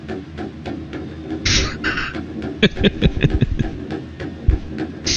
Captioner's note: laughs